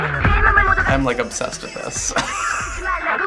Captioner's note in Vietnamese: cười rộ